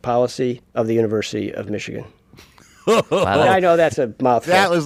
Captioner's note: laughs